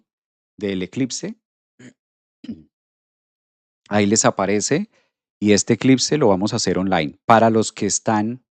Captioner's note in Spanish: carraspeo